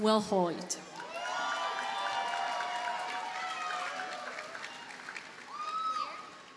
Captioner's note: audience cheers and applauds